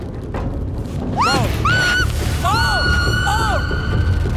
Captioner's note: screaming